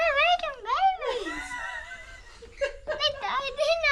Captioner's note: laughter